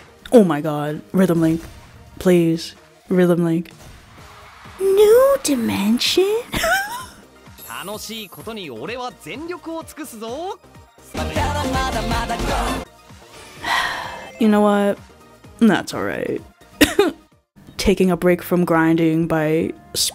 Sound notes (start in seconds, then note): 13.6 sigh